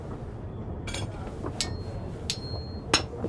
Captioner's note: chimes spoons rhythmically